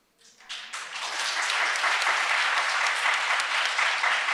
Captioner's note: audience applauds